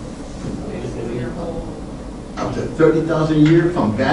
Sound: class mumbles

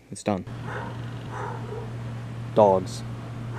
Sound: dog barking

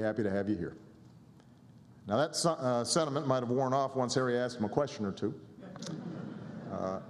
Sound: laughter

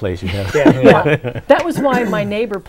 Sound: laughing

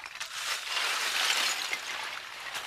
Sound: clinking

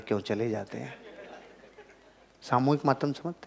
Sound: chuckles

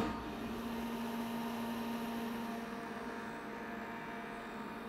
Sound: molder buzzing

